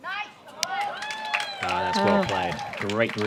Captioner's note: applause